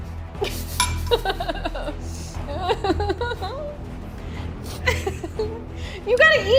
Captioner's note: dramatic music; laughs